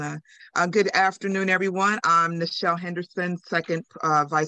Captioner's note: speaks Spanish